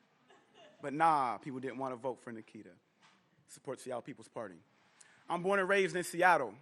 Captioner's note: laughter